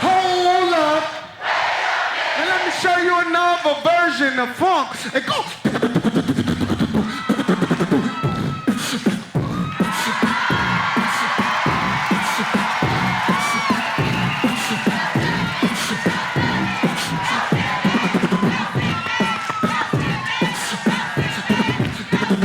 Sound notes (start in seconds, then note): 6.1 beat boxes; 11.1 audience applauds; 18.3 continues beat boxing